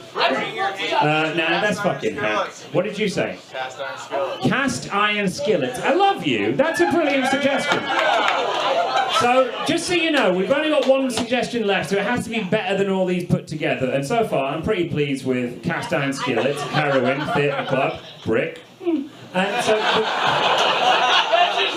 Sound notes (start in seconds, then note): 0.1 audience shouting; 6.6 audience cheers; 19.3 audience laughs